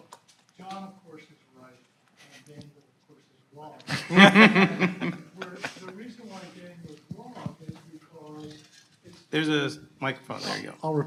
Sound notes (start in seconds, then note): 3.9 audience laughing